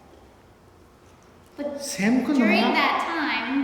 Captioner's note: speaking tibetan